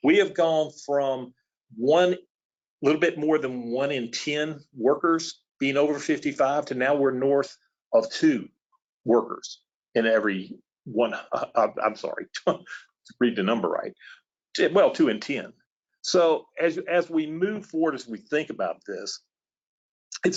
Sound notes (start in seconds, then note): 12.5 laughs